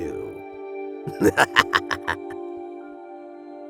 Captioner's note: chuckle